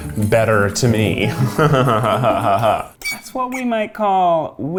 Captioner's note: laughs